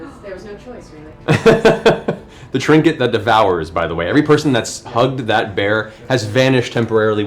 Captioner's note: laughs